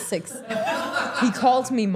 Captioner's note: everyone laughing